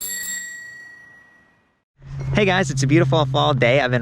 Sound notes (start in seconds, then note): 0.0 bicycle bell dinging